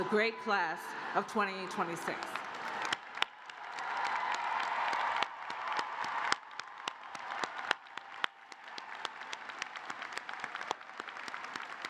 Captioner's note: cheers and applause